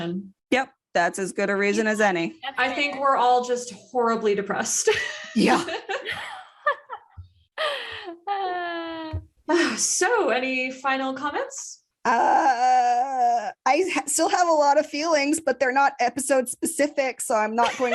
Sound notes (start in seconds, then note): 5.8 depression laughter